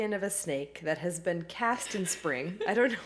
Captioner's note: laughing